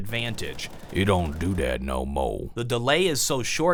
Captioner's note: cowboy voice